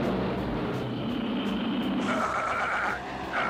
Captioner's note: engine sputtering